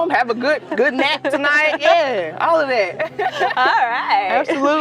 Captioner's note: lauhs